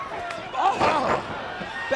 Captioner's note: crowd chatter